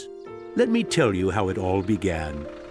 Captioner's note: birds chirping